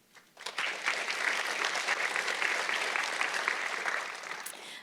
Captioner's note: audience clapping